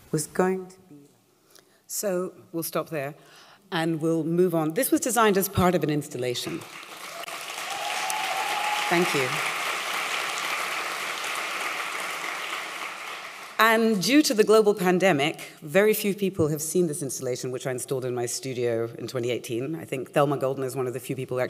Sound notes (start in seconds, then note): 6.4 applause